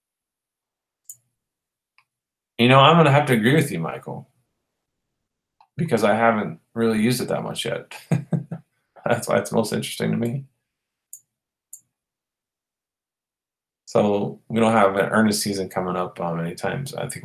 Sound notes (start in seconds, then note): 7.7 chuckles